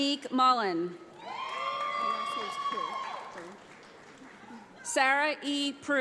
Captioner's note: audience applauds